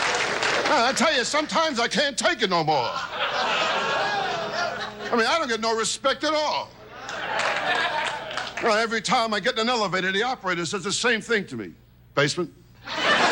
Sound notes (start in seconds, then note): 7.0 audience claps